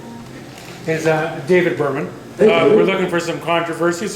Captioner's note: voiceover